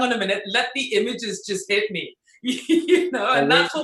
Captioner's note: laughs